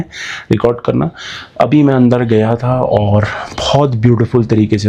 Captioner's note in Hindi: अचानक ज़ोर से सांस लेने की आवाज़